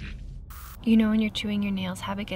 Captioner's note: static crackles